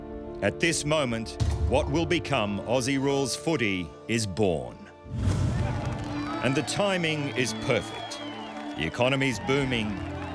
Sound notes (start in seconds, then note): 5.3 crowd cheering